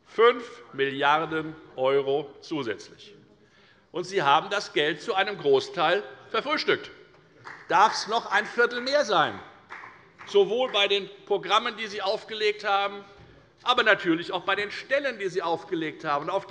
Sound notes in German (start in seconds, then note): 9.6 Beifall bei der FDP